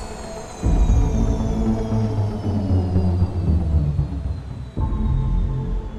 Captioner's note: helicopter propellors slow